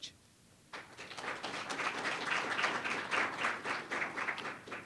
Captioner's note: audience applauds